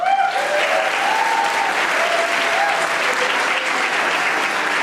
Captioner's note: audience applauding